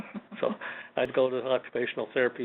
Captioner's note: laughs